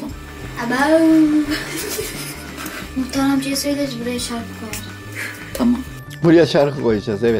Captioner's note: laughs